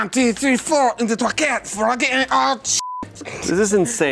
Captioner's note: beep